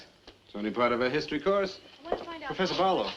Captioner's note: Miss Barlow speaking in the background